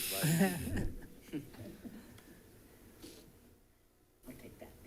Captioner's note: people chuckling